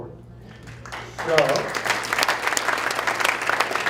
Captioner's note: applause